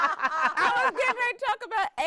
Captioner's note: everyone laughing